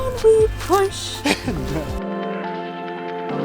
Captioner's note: laughing amusingly; gentle light music continues